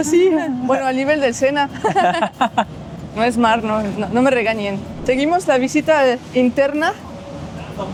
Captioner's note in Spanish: risas